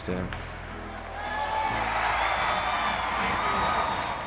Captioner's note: crowd cheers